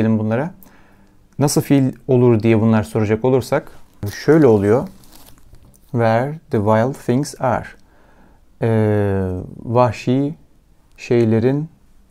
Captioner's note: in Turkish